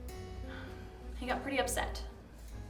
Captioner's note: sighs